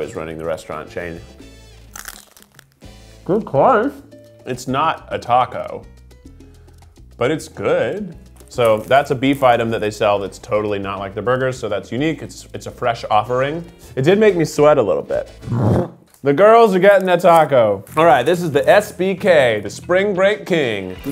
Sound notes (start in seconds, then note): 1.9 crunching